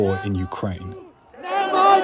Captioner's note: crowd chanting